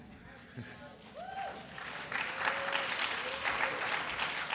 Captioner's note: audience applauds